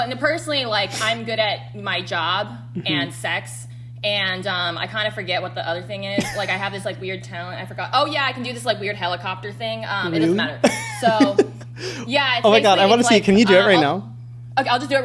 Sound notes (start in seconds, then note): 10.1 laughs